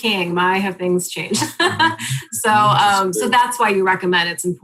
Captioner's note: laughs